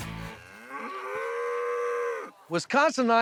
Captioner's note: mooing